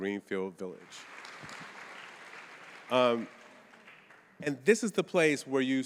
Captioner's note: audience applauding